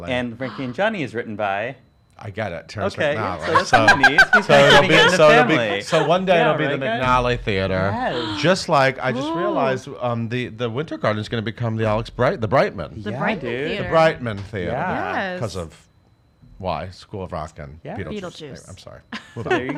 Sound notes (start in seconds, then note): 3.3 laughs